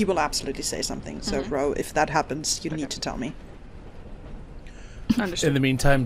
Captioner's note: metallic tapping continues intermittently